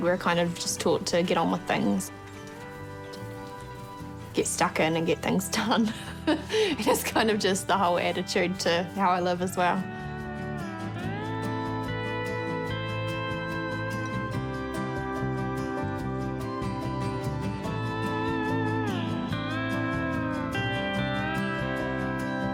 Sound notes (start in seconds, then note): 5.9 laughs; 10.9 pensive acoustic music